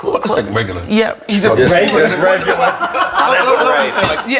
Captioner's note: all laughing